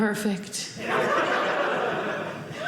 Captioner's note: audience laughing